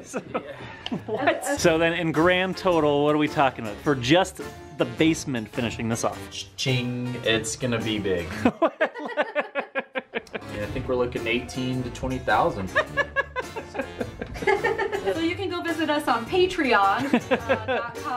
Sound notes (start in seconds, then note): 0.0 laughs; 8.3 laughs; 12.7 more laughter